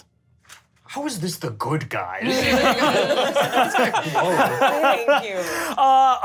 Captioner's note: laughs